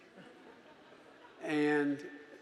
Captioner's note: audience laughing